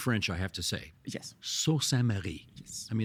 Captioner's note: French accent